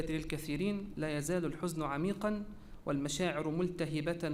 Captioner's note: repeated in Arabic